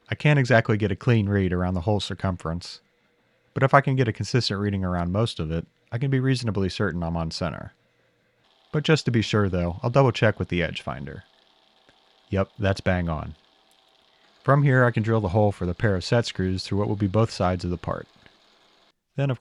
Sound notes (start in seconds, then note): 11.4 machine buzzing